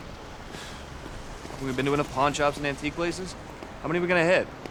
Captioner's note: sighs